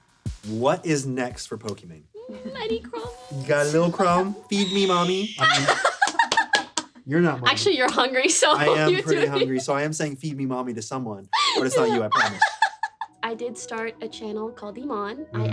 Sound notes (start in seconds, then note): 5.3 laughs